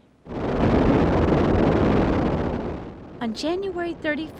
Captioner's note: rocket blasting off